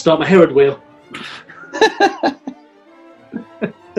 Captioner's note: laughing